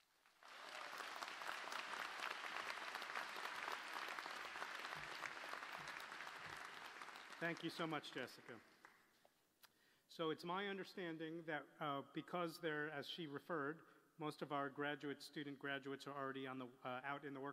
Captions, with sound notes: (APPLAUSE) . >> THANK YOU, SO MUCH, JESSICA. SO IT'S MY UNDERSTANDING THAT BECAUSE AS SHE REFERRED, MOST OF OUR GRADUATE STUDENT GRADUATES ARE